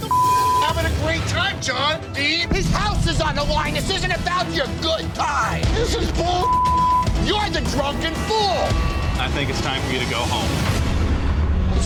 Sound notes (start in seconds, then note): 0.0 beep; 6.4 beep; 10.8 dramatic music